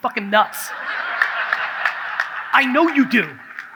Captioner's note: audience laughs